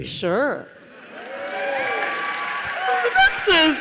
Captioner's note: audience applauds